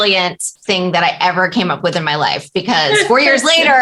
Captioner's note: laughter